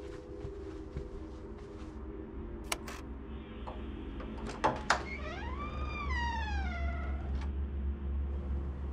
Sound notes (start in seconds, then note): 2.7 door unlocks